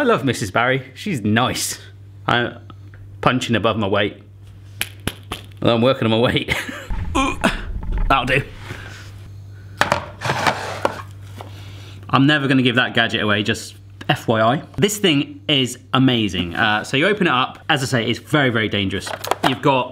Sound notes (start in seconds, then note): 6.7 laughing